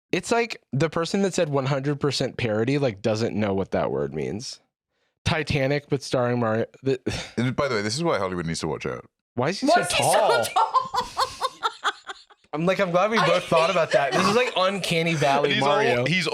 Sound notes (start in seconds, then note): 9.7 laughs